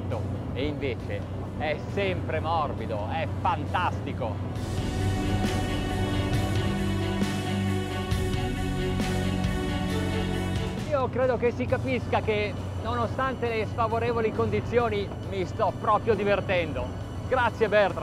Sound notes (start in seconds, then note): 11.0 speaking in foreign language